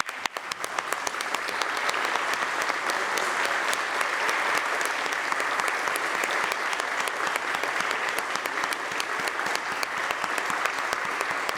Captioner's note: applause